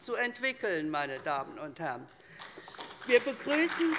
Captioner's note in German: Beifall bei der SPD